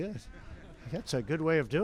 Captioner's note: laughter